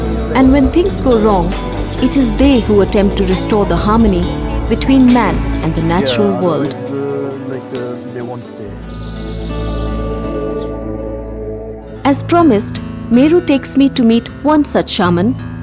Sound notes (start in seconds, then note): 7.2 indistinct conversation; 7.2 moves into gentle music